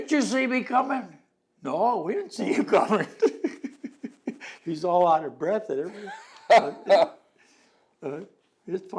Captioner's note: laughter